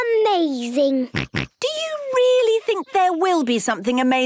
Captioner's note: snorts